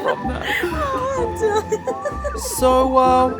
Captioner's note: laughing